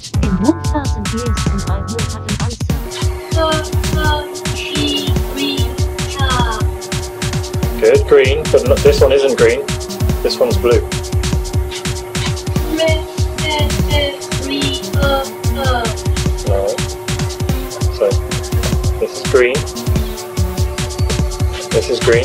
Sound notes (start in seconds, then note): 3.5 robot voice; 12.9 robot voice